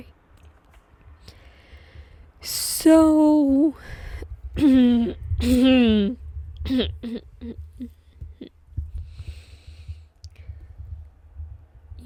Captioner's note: clears throat